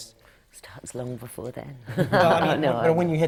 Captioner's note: laughter from the panel